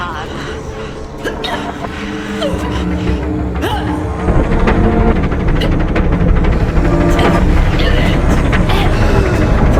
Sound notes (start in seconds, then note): 3.6 Naira making guttural noises